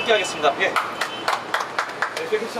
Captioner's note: clap